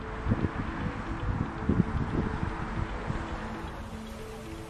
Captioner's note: wind whooshing